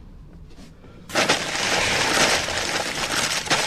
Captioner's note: paper torn loudly; crash